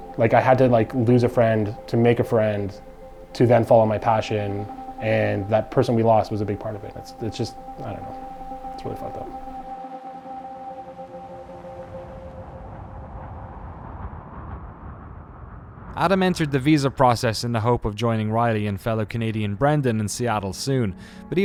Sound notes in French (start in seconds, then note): 12.8 le souffle du vent; 16.2 Voix off